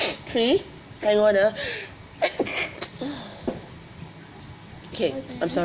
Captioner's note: sneezes